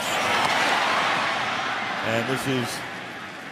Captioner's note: cheering